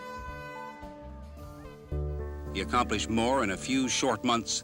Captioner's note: horn blares